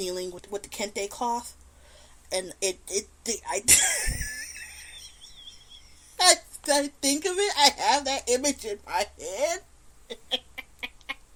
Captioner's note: laugh; laughs